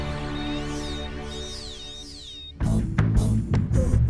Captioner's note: beeping; dramatic music